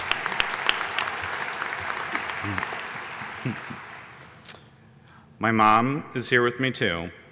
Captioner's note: applause